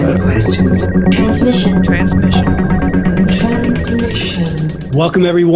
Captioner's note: voiceover